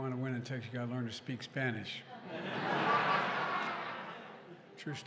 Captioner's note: laughter